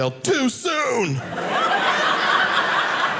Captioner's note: audience laughing